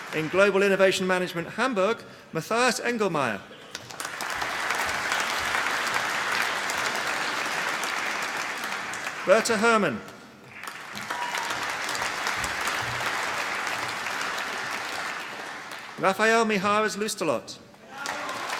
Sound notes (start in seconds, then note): 3.8 applause; 10.6 applause; 17.8 applause